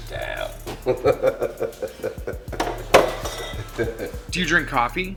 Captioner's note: laughing